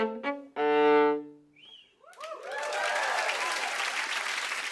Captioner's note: whistling, cheering, and applause